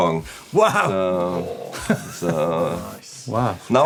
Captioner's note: laughs